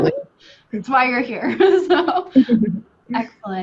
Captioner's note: laughs; laughs